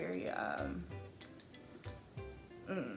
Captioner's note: laughs